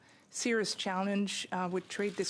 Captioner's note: speaking in French